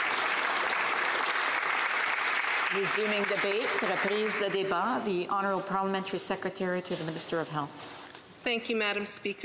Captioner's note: applause